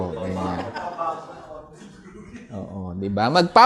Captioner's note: indistinct chatter; laughter